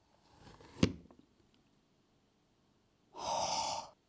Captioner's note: gentle thud; deeply exhales